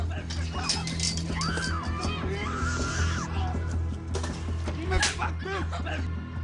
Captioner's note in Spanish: Se escucha el ruido de la pelea entre Janney y Trino